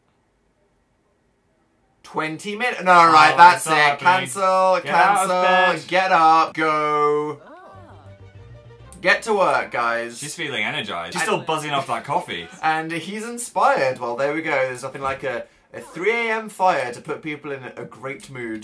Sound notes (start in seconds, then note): 10.6 chuckles